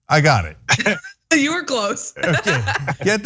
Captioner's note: laugh